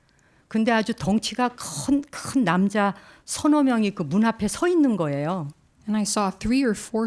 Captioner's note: speaking in Korean